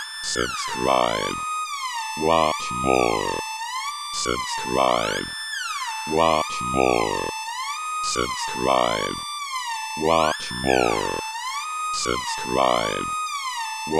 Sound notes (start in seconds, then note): 0.2 electronic voice